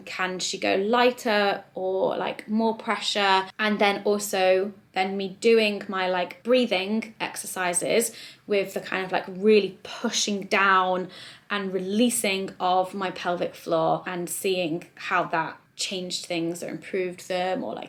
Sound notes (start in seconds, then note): none